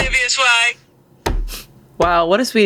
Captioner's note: smacks table